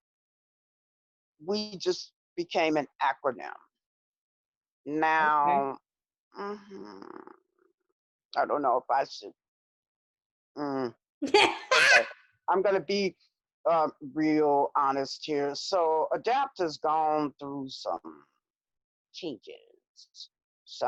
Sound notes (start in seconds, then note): 5.4 grunts thoughtfully; 9.4 grunts thoughtfully; 11.2 laughs loudly